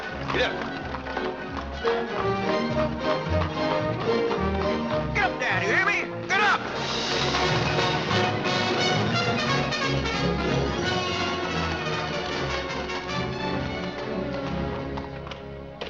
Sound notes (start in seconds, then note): 0.0 hooves trotting; 7.2 dramatic music